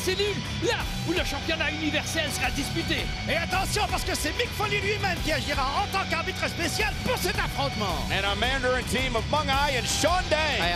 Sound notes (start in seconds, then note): 3.3 speaking in French